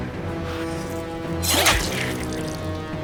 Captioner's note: knife slices; blood gushes; Rachel grunts